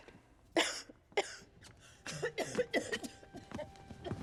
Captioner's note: coughing